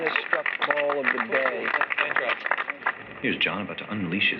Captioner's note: applause